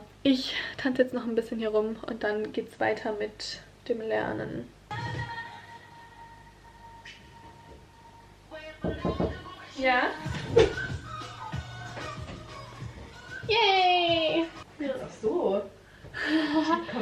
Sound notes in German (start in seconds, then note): 8.8 Klopfen an der Zimmertür; 10.3 Zimmertür öffnet sich; 16.2 Lachen